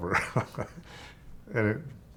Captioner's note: chuckling